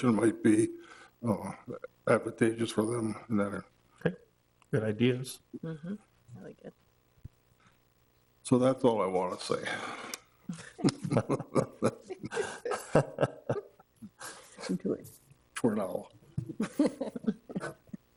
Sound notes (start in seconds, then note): 10.5 all laughing